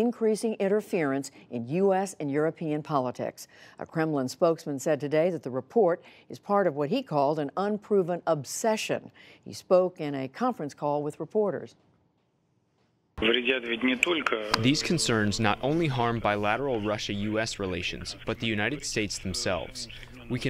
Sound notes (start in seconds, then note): 13.7 through translator